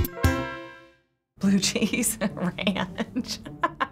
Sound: chuckles

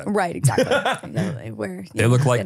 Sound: laughs

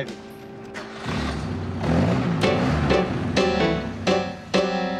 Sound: engine starts

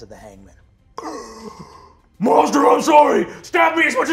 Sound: gasps

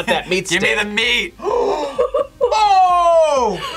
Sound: both gasp

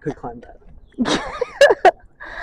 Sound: laughing noises

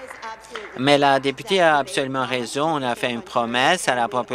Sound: applause

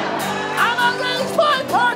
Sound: audience laughs

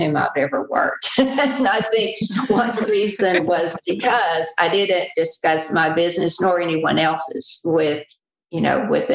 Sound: laughter

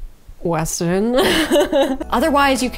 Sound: laughs

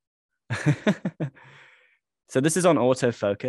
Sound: laughing

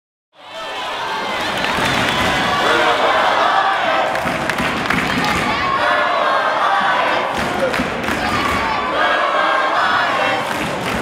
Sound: cheering

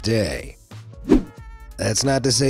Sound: swooshes

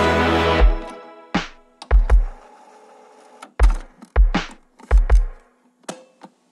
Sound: cassette rewinding and unloading

